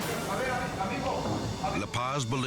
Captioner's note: officers speaking in foreign language